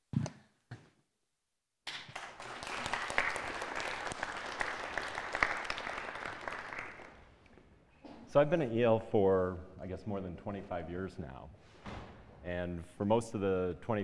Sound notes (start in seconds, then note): 1.9 applause